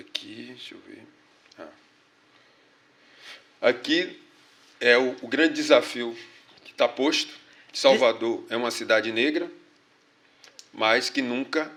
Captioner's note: speaking portuguese